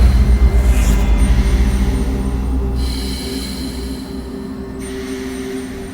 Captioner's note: dramatic music; gas mask hissing